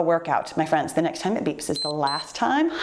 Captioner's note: timer beeps